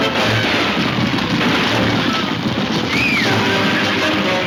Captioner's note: Mary screaming